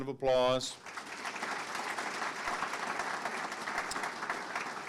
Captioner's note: audience clapping